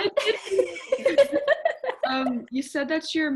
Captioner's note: all laugh